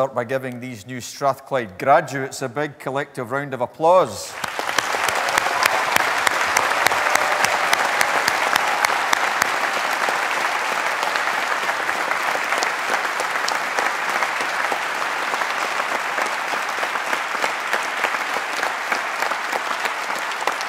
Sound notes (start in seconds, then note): 4.4 applause